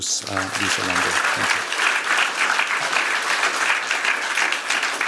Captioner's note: applause